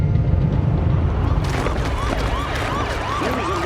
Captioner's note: clamoring